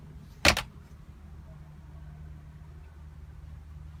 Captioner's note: door closing